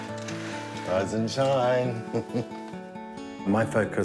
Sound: chuckles

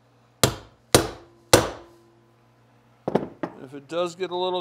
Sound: hammer pounding

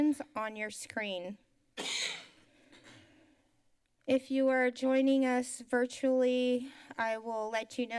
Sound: coughs

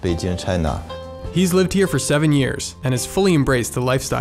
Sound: voiceover

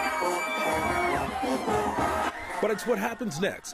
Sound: screams

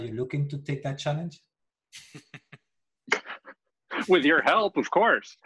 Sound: laughter

